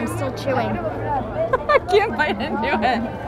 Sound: laughs

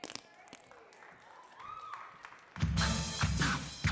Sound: audience clapping; upbeat hip-hop music

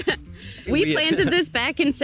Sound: chuckles

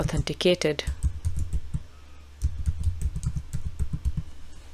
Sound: keyboard clacking

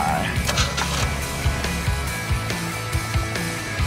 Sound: engine turns over; upbeat music

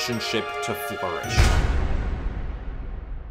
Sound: boom

